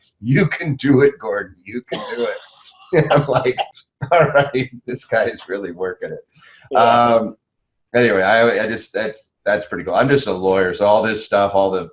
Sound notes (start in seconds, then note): 1.8 laughs